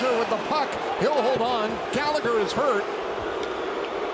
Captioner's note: booing